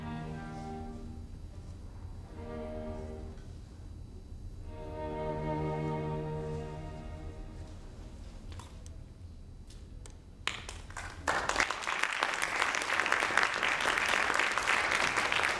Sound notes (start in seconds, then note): 10.4 audience applauding